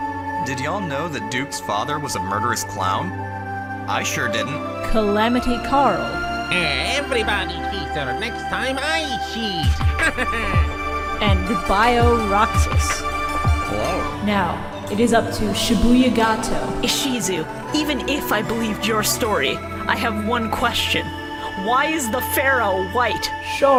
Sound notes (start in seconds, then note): 6.3 Waluigi voice; 10.0 Waluigi laugh; 16.8 Kaiba voice